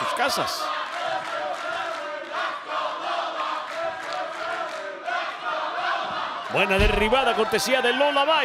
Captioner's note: applause